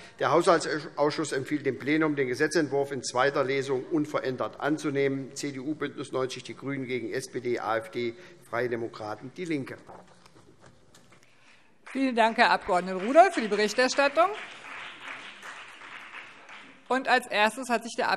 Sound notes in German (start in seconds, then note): 10.2 Beifall BÜNDNIS 90/DIE GRÜNEN, vereinzelt CDU und SPD